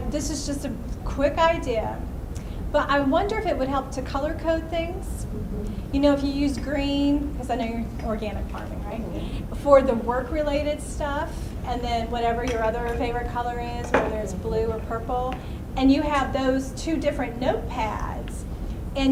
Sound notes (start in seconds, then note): 9.5 voiceover